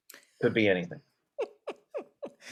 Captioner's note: laughing